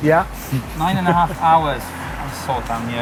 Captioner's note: chuckling